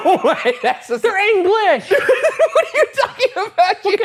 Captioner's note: laughing